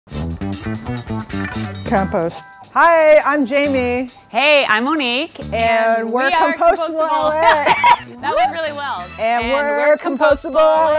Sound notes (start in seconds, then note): 0.0 upbeat disco music; 7.2 both laugh